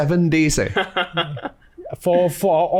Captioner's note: laughs